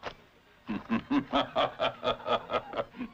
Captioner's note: laughing